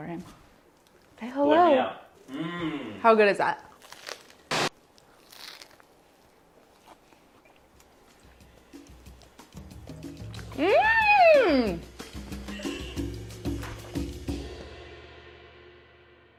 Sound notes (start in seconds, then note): 3.6 bread crunching; 8.4 drum music